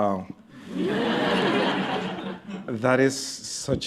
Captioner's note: laughter